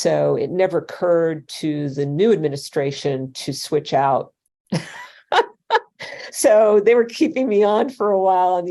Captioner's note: laughter